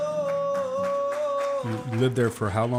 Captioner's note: audience clapping